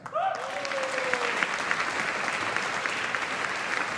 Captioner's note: audience applauding